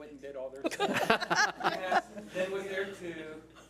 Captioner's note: laughs